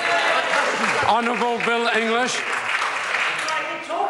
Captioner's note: members applaud